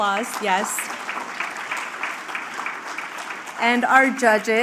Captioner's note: applause